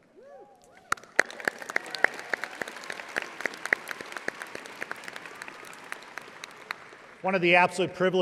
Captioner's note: audience applauding